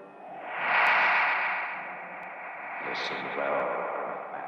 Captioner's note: magnetic humming